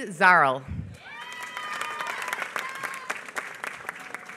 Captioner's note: applause